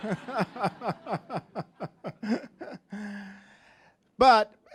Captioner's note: all laughing